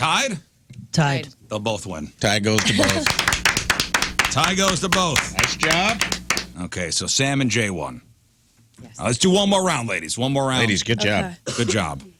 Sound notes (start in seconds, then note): 2.5 clapping